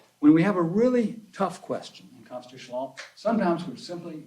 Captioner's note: none